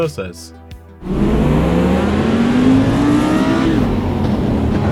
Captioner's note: engine revving